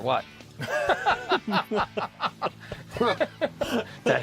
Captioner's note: laughing